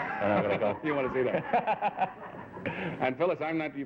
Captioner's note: laughter